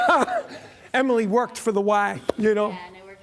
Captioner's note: laughs